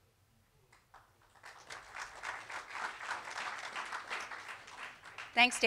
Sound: audience applauding

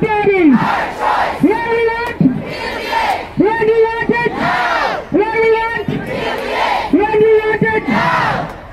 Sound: chanting

